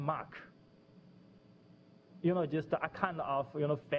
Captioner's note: pause